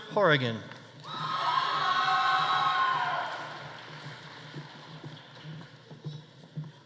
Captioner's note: audience cheering; audience applauding